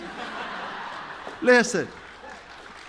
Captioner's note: chuckles